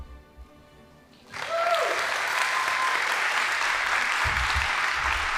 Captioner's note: audience applauding